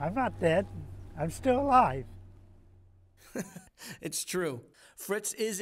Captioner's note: laughter